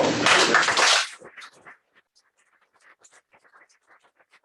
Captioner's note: applause